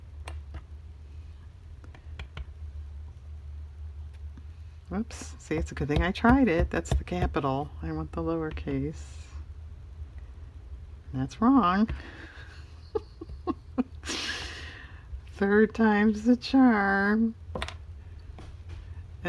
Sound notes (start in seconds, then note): 11.9 laughs